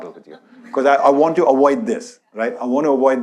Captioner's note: audience laughs